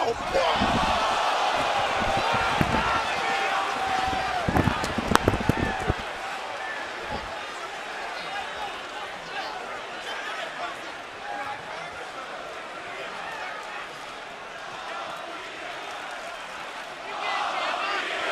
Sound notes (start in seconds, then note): 2.6 crowd chatter; 4.5 crowd cheering